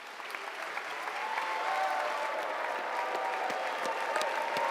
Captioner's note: cheers, applause